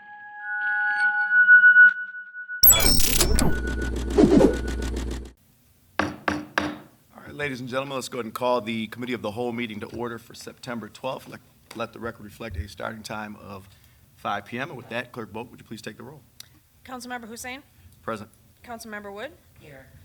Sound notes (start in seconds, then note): 0.7 electronic buzzing; 6.0 gavel knocks